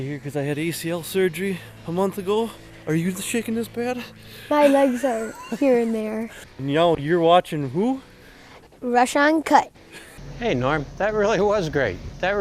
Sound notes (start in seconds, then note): 4.4 laughing